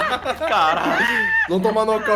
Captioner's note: everyone laughs